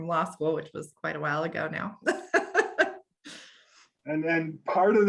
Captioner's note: laughs